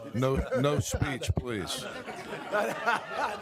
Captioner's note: laughter